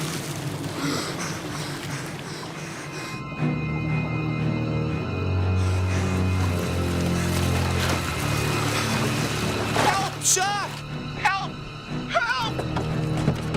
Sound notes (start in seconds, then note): 0.7 gasps